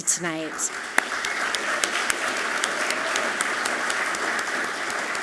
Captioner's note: all clapping loudly